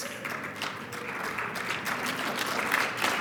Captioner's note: applause